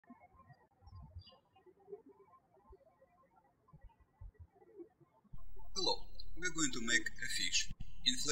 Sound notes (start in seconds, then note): 0.2 birds chirping